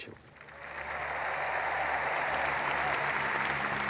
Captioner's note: crowd applauds